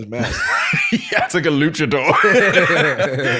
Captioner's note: laughs; laughter